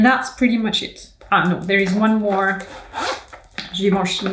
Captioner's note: zipper hisses